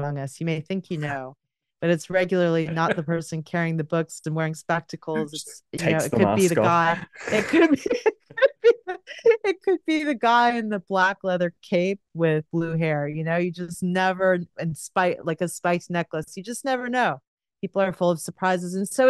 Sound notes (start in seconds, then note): 6.3 laughs